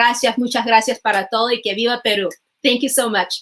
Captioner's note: in spanish